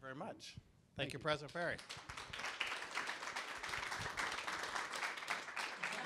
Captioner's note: clapping